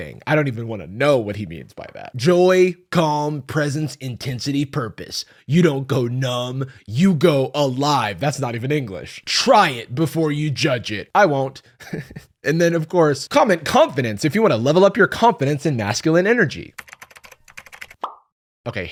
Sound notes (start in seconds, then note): 11.8 chuckles